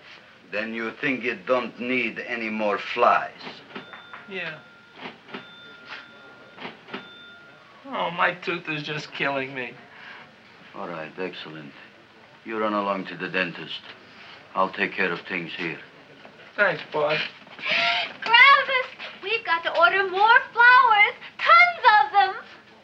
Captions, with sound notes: - Then you think it don't need any more flies? - Yeah. (cash register chiming rapidly) Ow, my tooth is just killing me. - All right, excellent. You run along to the dentist. I'll take care of things here. - Thanks, boss. - (gasps) Gravis! We've got to order more flowers, tons of them!